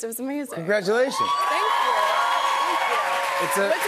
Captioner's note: cheers and applause